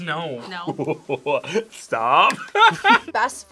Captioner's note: laughs